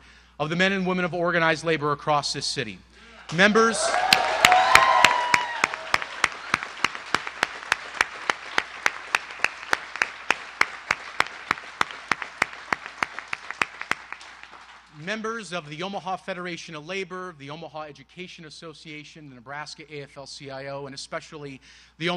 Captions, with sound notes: BUT ALSO WE WOULDN'T BE UP HERE TONIGHT WITHOUT THE STRONG SUPPORT AND UNWAVERING SUPPORT OF THE MEN AND WOMEN OF ORGANIZED LABOR ACROSS THE CITY. [APPLAUSE]